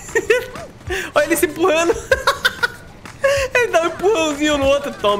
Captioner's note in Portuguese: risos; risos